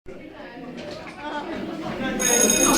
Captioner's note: students chattering; school bell rings